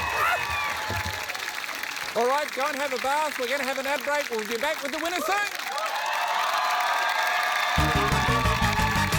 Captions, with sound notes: Alright. Go and have a bath. We're gonna have an ad break. We'll be back with the winner soon! (CHEERING, APPLAUSE)